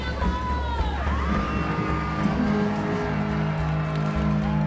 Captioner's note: audience cheers